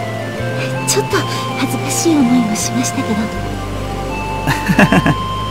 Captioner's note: rain